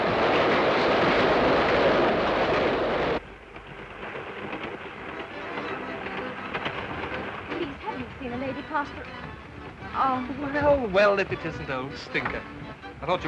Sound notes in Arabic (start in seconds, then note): 0.2 هدير القطار; 3.2 صوت خشخشة القطار; 5.1 تلعب الموسيقى الشعبية